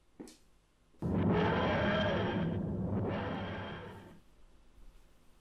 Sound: vworp vworp

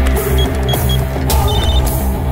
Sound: phone rings

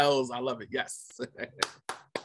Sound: claps

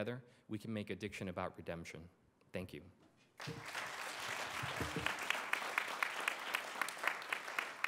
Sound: applause

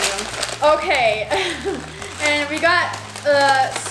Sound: laughs

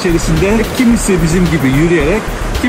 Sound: swimming

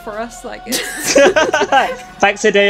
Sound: laughter

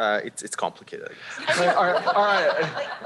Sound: laughter

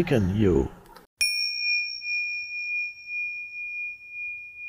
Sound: gentle dinging

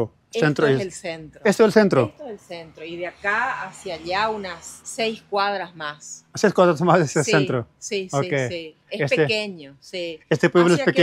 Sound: speaking in Spanish

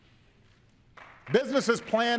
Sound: applause

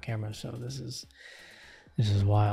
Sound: inhale.sfx

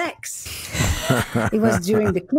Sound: all laughing

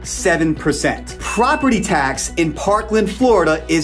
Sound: graphics ding

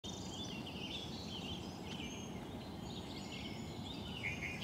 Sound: birds chirping

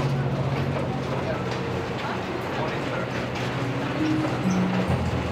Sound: passengers chattering

